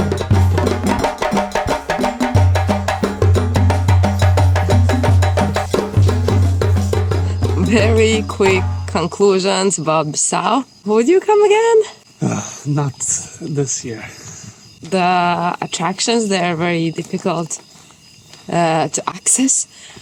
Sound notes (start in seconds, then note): 14.0 exhales